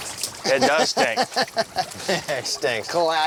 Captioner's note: laughing